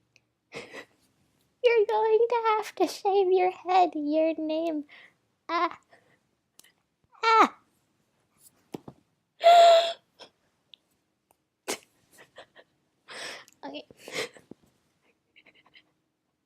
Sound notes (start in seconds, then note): 0.5 silent laughter; 9.4 another deep inhale; 12.1 laughter